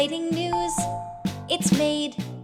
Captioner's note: ding Dong